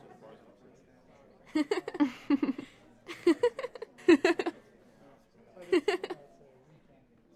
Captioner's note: girls Laughing